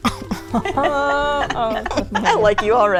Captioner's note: group laughs